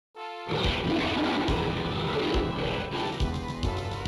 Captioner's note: rawr